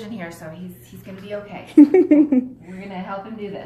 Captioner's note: giggles